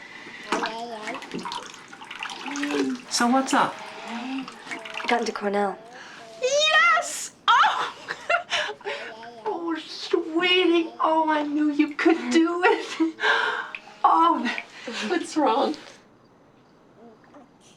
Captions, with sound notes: (COOING) So, what's up? I got into Cornell. Yes! Oh! (LAUGHS) Oh, sweetie. Oh, I knew you could do it. Oh, what's wrong?